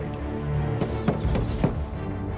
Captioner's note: man knocking on door